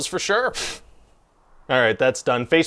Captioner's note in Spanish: expulsa un poco de aire por la nariz